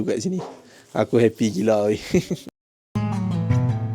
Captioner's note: laugh